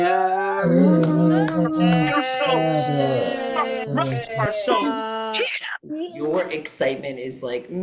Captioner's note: cheering